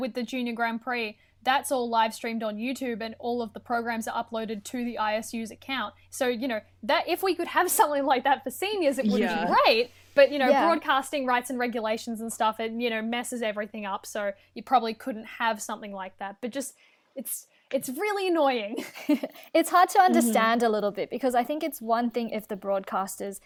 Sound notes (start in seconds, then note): 9.0 interjections of agreement